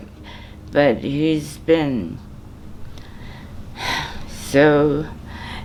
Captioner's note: sighs